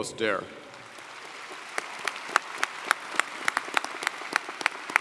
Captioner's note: audience applauding